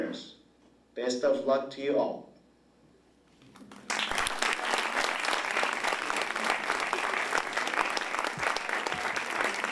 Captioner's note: applause